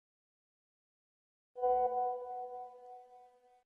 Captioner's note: message alert tone